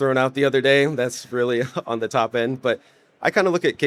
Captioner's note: chuckles